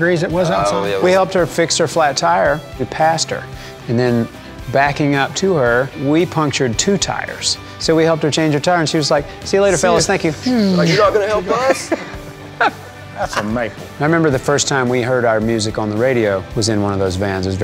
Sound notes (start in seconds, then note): 12.3 laughs